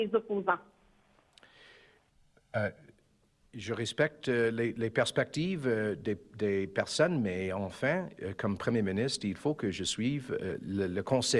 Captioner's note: speaking in French